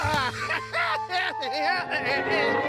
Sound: laughs joyously

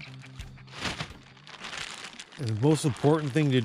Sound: plastic bag rustling

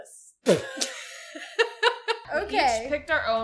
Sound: both Laugh

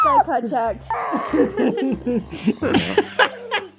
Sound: laughing

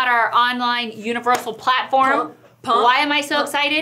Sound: hands clap; hands clap

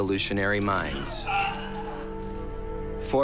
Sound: moans in pain

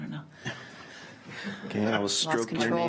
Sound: laughs

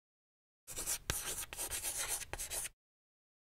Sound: chalk scratching

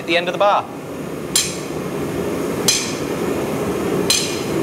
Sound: metal clanging

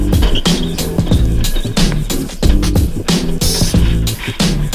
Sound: tires screeching

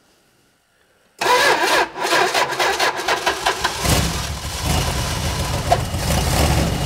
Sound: ignition stutters; engine purrs

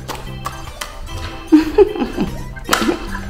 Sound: laughs

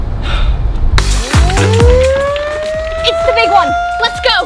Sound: alarm blares

